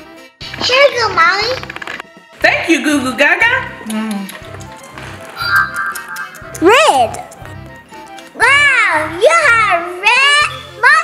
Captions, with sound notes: Here you go Mommy. - Thank you Goo Goo Gaga! (munches lightly) - Red. Wow, you have a red mustache!